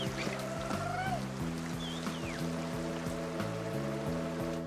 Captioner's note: gentle music; cheering